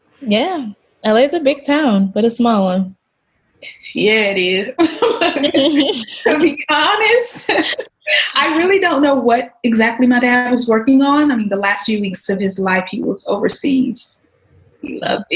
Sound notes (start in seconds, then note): 4.7 laughs